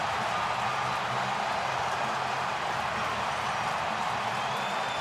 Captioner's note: crowd cheers